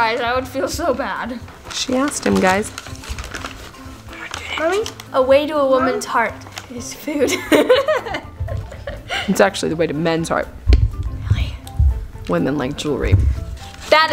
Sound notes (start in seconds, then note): 7.2 laughs